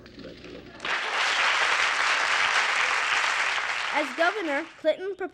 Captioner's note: applause